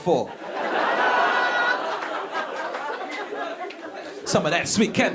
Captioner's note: audience laughing